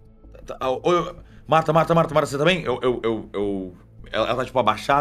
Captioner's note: stammering